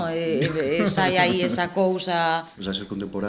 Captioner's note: laugh